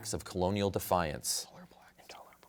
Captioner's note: whispers